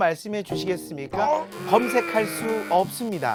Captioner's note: angry groan